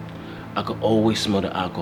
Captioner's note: Z exhaling; Z inhaling